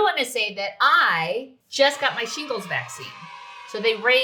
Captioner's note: children cheering